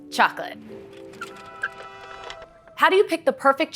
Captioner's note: cart wheels; horns